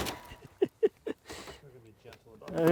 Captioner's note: hammer thudding; laughing